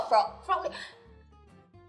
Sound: gasp

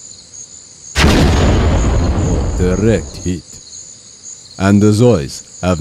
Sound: explosion

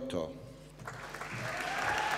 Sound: applause

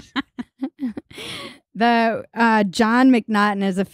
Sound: laughing

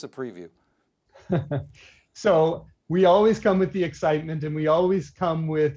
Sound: chuckling

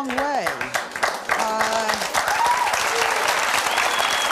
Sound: audience clapping

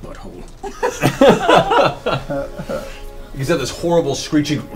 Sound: all laugh

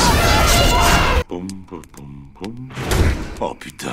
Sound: The sound effects of tanjiro regreting not shutting his mouth; humming

